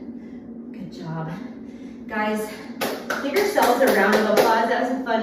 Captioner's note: clapping